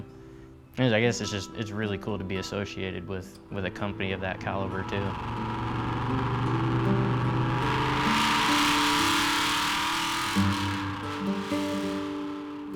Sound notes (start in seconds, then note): 5.9 engine revving; 9.3 gentle guitar music